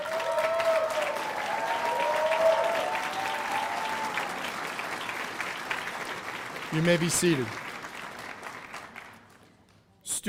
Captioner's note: cheers and applause